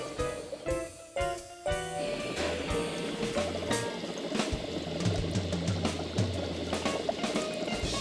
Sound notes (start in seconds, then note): 2.2 bunsen burner hissing; 2.6 liquid burbling continues